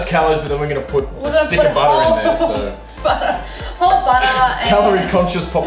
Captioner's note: laughter